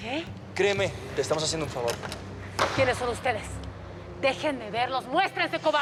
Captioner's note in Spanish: ruido al quitar batería